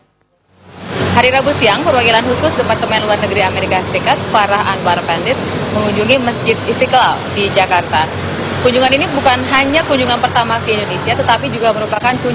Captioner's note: non-english speech